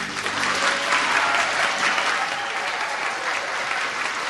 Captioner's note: Публиката аплодира